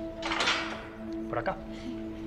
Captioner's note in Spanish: Sonido al cerrar